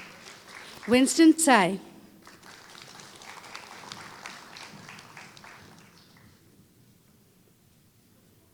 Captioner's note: applause